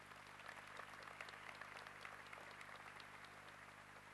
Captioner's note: applause